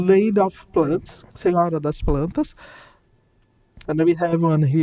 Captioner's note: speaking in Portuguese